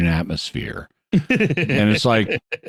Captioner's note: laughing